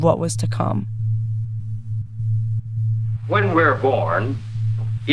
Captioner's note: soundbite of archived recording